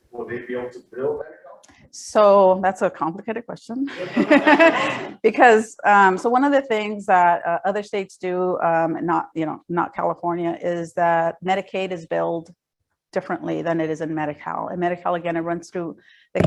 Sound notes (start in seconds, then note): 3.9 audience laughs